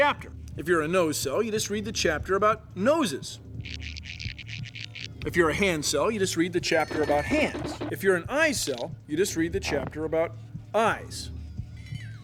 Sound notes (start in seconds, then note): 3.2 scritching